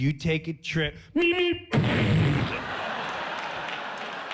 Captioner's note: mimics Roadrunner